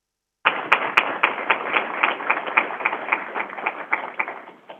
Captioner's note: crowd applauding